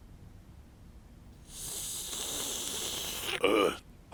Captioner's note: slurping